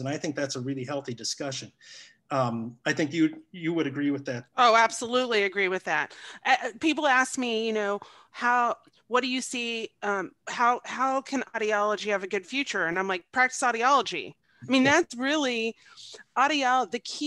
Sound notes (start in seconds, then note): none